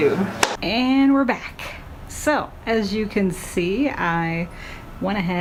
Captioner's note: claps